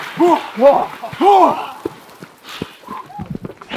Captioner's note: grunting